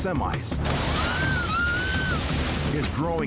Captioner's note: screaming continues